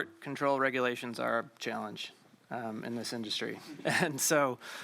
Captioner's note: laughs